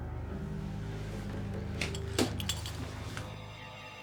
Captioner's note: clattering